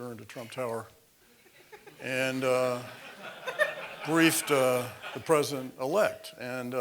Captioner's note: laugh